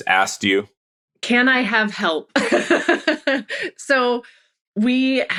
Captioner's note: laughs